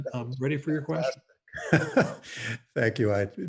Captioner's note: laughs